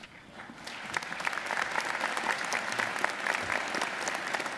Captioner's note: audience applauding